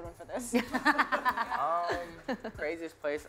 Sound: laughter

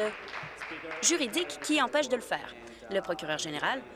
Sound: applause

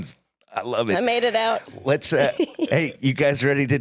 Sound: laughs

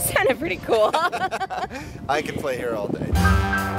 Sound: laughing

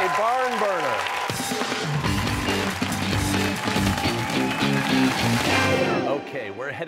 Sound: cheers and applause

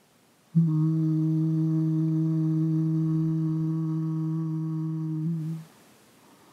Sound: humming sound

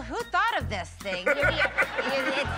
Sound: laughter

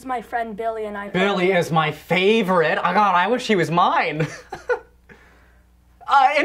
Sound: laughter

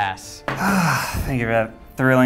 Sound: sighs

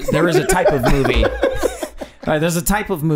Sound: Charlie laughing

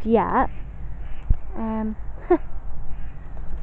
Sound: laugh

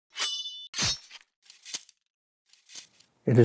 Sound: sword slashing

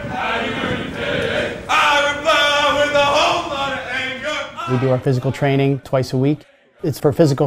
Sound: chants

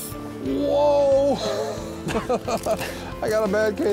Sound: laughs

